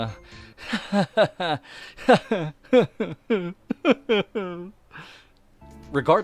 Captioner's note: hysterical and depressed laughing